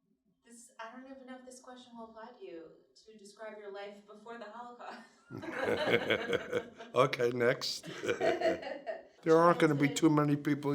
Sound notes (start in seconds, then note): 5.3 laughs